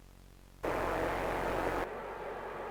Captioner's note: Static; crowd noises